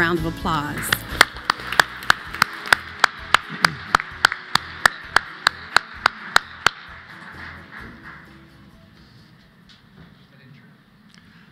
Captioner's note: applause